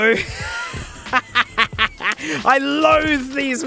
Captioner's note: wheeze